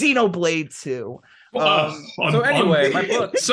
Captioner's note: laughing